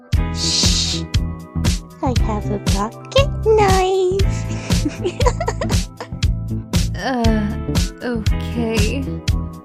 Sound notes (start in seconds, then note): 4.3 creepy laugh from a scheming psycho